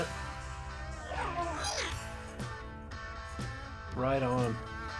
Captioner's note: robot makes sounds